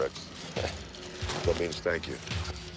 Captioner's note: speaking romanian